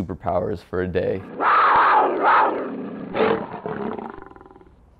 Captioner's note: large cat roars